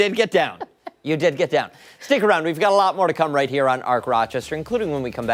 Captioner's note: laughter